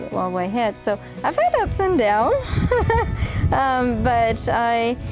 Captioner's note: laughs